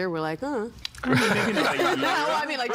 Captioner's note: all laughing